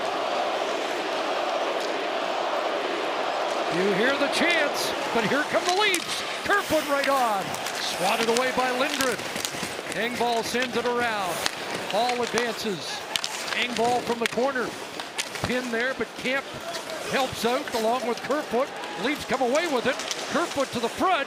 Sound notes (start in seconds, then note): 4.3 chanting